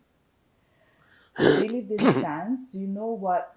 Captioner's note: clears throat